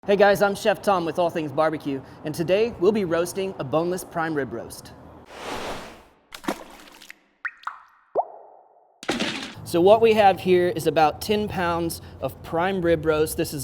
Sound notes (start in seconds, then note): 5.3 woosh; 6.2 splash